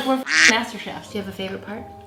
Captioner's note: beep